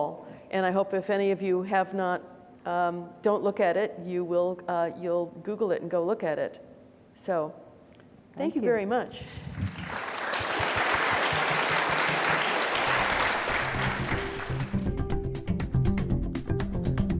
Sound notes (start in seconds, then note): 9.3 audience applauding; 14.4 upbeat music